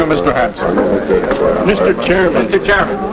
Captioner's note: mumuring from audience